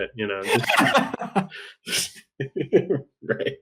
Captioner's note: laughter